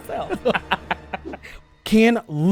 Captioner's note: laughter